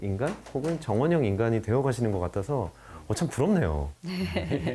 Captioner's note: creak~